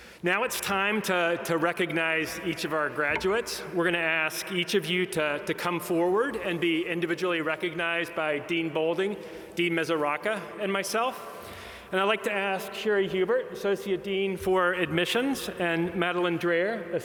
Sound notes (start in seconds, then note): none